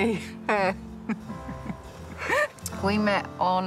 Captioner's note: laughs